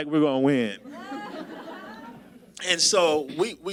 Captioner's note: audience laughs